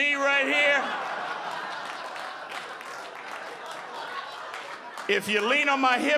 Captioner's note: audience laughing